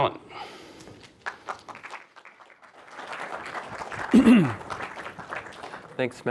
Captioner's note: applause